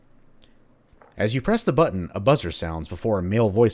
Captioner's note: intercom